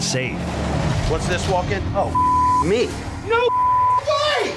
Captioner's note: beep